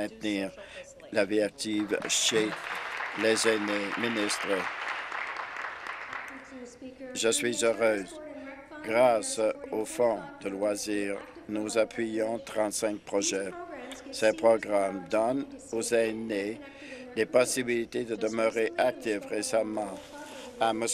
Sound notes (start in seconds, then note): 5.4 applause